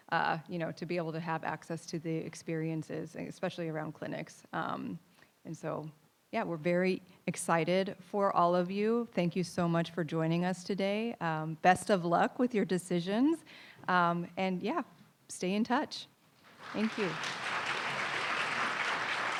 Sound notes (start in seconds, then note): 16.4 audience applauding